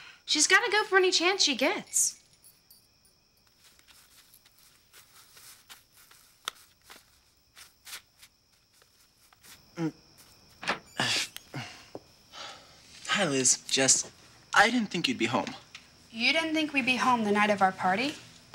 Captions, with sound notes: She's gotta go for any chance she gets. [plastic rustling] [Winston grunts] Hi, Liz, Jess. I didn't think you'd be home. You didn't think we'd be home the night of our party?